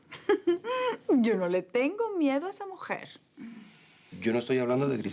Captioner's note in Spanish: Ella ríe